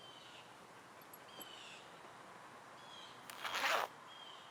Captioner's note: belt jangles; zipper whizzes